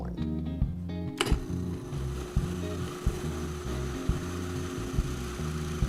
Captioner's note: food processor whirring